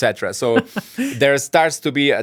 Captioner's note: laughs